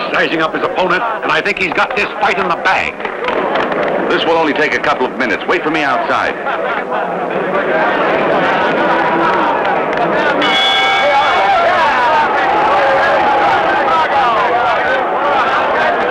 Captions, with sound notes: He's sizing up his opponent and I think he's got this fight in the bag. - This will only take a couple of minutes. Wait for me outside. (crowd chattering) (bell dings) (crowd yelling)